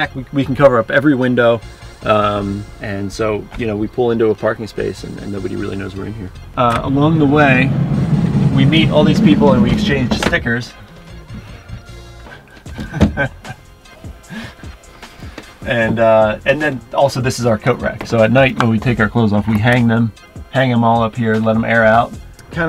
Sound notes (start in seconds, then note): 12.2 laughing